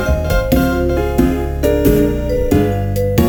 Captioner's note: woosh; footsteps